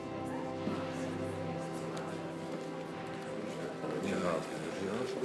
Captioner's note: people chatter indistinctly